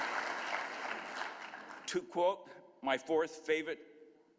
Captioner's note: applause